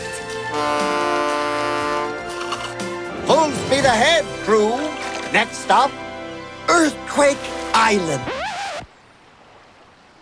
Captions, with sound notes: [horn blowing] Full speed ahead crew, next stop, Earthquake Island! [record scratch]